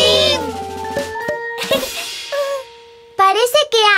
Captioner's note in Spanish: Risas